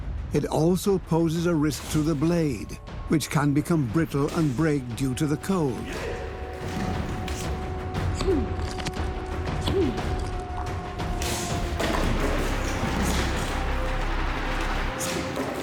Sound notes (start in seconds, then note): 7.8 he grunts